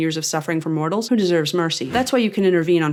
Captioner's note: poof